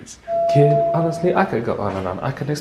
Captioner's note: elevator dings